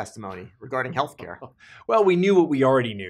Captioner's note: laughs